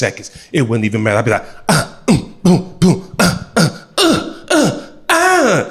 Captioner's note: grunts